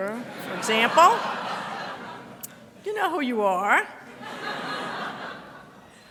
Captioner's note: audience laughter